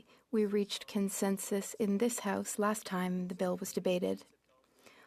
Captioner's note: speaking French